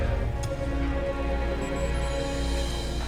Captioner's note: monitor beeps